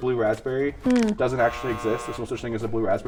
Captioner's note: buzzer buzzing